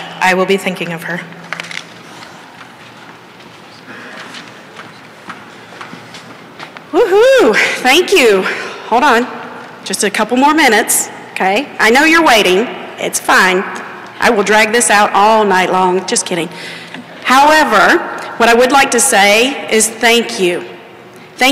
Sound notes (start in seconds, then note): none